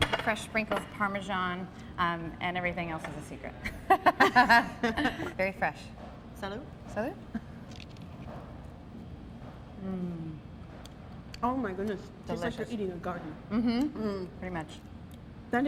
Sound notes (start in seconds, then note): 3.6 laughter